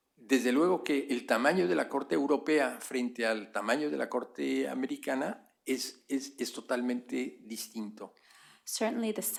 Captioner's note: speaking spanish